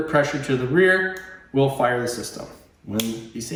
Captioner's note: clicks